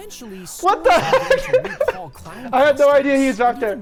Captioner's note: laughs